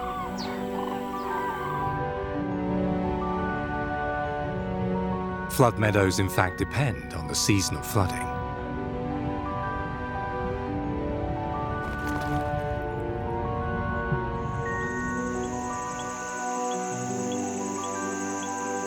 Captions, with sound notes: (birds screeching) (gentle music) Flood meadows, in fact, depend on the seasonal flooding. (gentle music) (insects chirp)